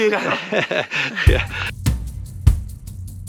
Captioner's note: laughs